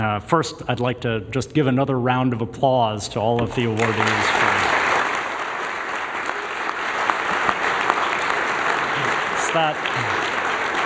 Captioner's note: applause